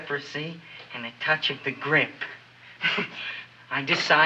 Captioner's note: chuckles